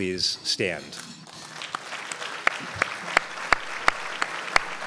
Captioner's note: crowd applauds